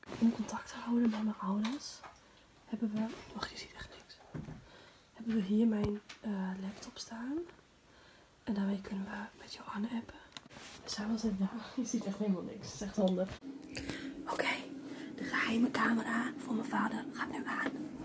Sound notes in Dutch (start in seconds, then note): none